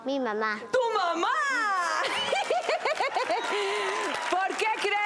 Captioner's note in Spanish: Risas